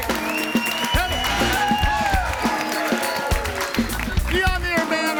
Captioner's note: audience cheers